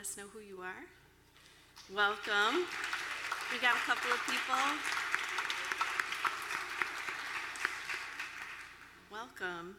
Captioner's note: applause